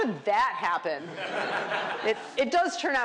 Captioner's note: laughter